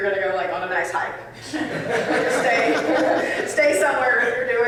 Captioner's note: audience laughing